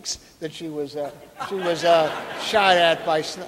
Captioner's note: audience laughing